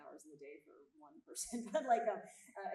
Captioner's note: chuckles